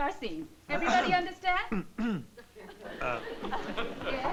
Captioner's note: clears throat